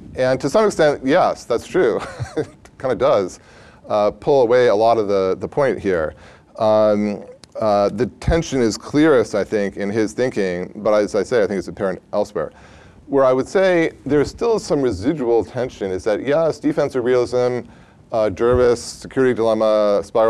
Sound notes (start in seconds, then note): 2.0 laughs